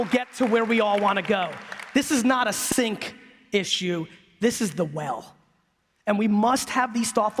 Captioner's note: applause